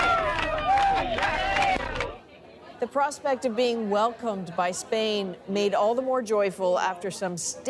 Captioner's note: cheering